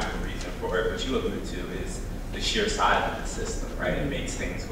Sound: speaking faintly

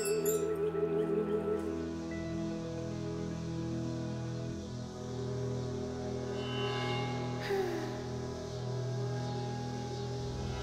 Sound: bells chime

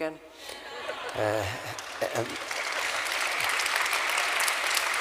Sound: laughter & applause

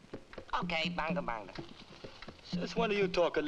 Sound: Rakos speaking in foreign language; speaks gibberish

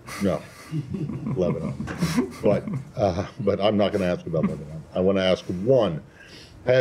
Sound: laughter

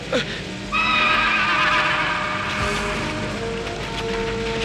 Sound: neighing

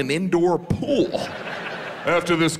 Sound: audience laughs

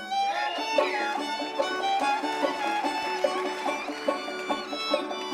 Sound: audience applauding

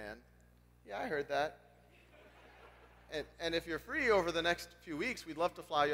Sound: laugh

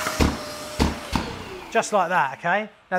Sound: wet vac booms

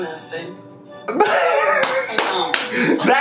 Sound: laughing

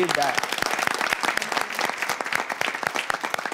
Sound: applause

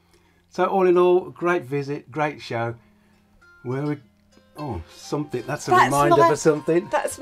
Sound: phone alarm

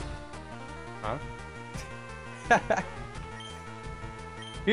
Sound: laughs

